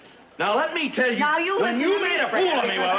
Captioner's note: both Shouting